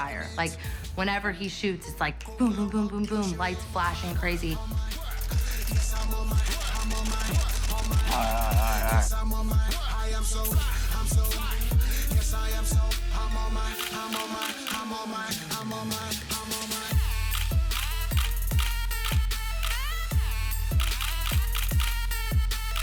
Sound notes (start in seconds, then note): 4.8 hip hop music; 6.3 camera clicking; 10.7 hip hop music; 13.8 camera clicking; 19.9 hip hop music